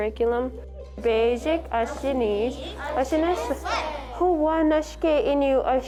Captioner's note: speaking Ojibwe